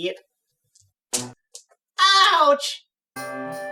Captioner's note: bonk